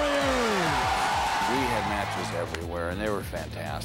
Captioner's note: applause